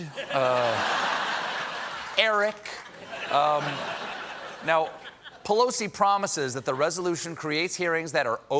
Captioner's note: laughter